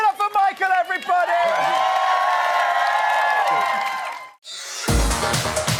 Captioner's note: audience cheering